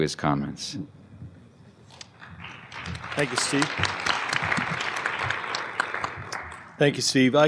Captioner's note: applause